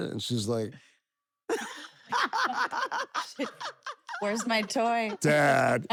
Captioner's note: laugh